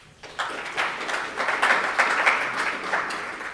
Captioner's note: applause